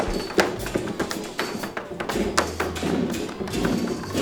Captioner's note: tapping